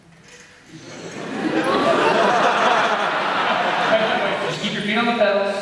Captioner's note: laughter